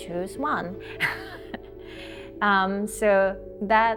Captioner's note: laughter